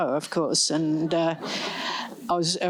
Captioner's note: laughter